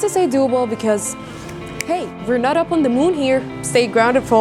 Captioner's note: طقطقة أصابع